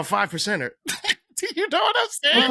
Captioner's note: laughter